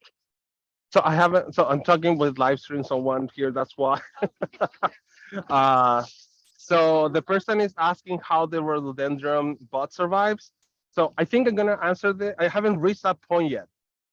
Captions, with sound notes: - So I'm talking with live stream, so one ear, that's why (laughs). So, the person is asking how the rhododendron buds survive. So, I think I'm going to answer, I haven't reached that point yet.